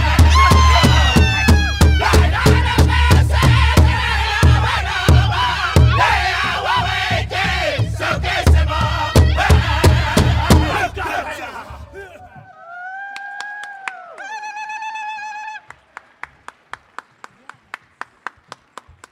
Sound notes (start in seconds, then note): 12.6 audience cheers; 16.0 audience applauds